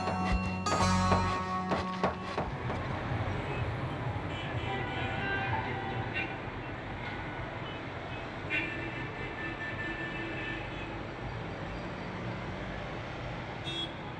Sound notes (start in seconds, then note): 0.0 construction noise; 3.2 traffic noises